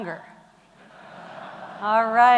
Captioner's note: audience chuckling